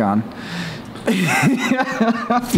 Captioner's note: laughs